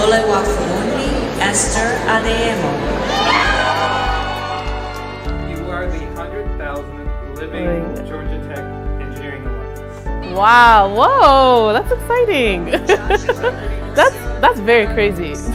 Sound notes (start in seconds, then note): 1.9 crowd cheering; 12.8 laughs